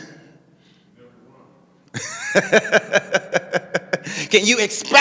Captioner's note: laughing